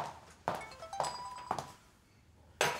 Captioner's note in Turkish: Telefon çalıyor